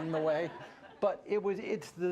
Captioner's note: laughter